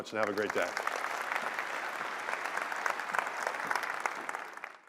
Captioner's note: applause